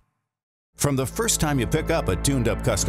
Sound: voiceover

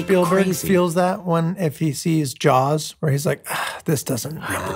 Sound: sighing

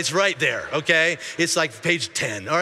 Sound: congregation laughing

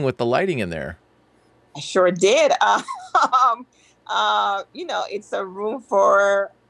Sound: laughs

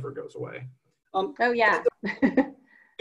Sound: chuckles

